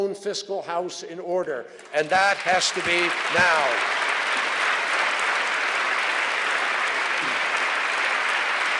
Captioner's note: applause